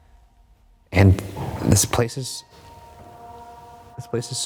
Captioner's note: knock thuds